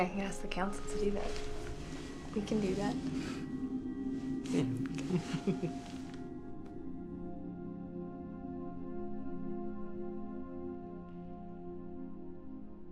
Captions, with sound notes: I mean I can get us the councils to do that. We can do that. (laughing) (slow somber music)